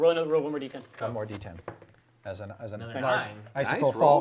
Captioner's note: all chattering